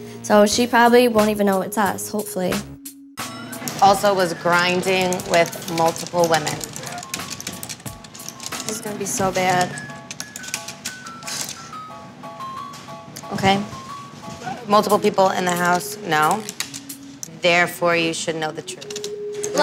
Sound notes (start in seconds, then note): 7.1 typing; 11.4 exhales